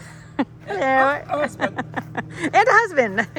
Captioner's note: laughs